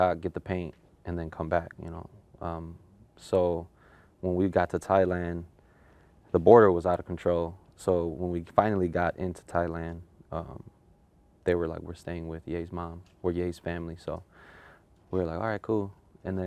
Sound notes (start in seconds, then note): none